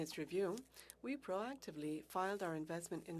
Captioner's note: speaking French